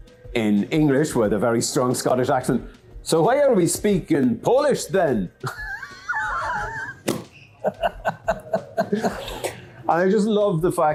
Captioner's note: both laugh hard